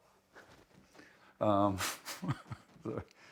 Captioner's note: laughter